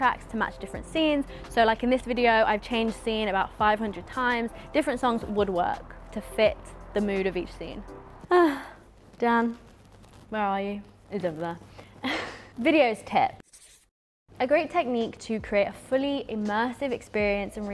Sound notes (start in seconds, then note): 8.2 sighing; 12.2 chuckling